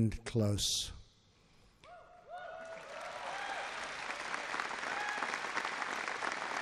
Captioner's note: applause